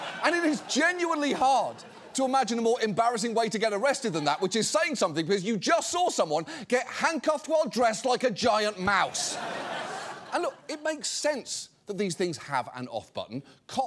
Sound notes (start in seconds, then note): 9.0 audience laughs